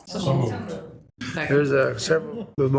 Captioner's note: group chattering